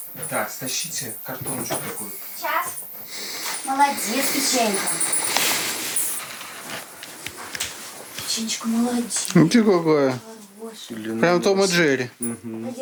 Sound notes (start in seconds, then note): 5.3 squeaking, rustling